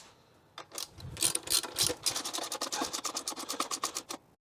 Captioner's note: ratchet Noises